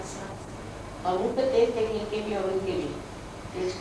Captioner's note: hindi